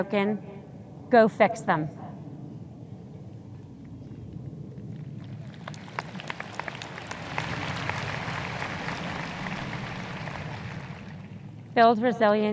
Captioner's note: audience applause